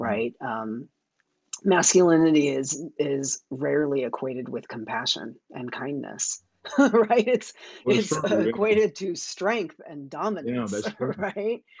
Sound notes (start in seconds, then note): 7.9 chuckles